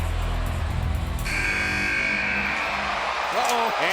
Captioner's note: buzzer buzzing